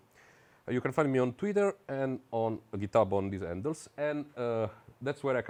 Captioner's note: foreign language